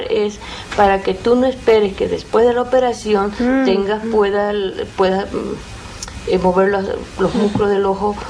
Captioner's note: speaking Spanish; woman speaking Spanish